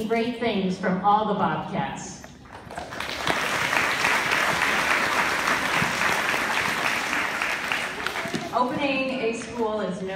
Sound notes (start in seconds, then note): 2.5 applause